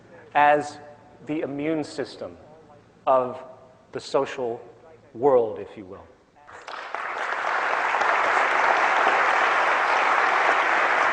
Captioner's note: applause